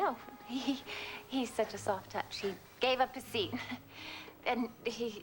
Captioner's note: chuckling